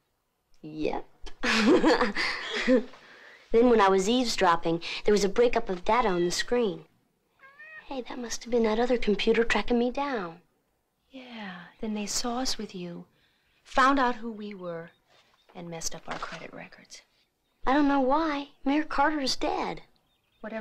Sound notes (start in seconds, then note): 1.4 laughs